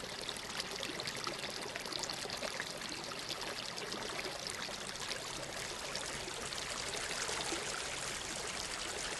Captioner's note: water flowing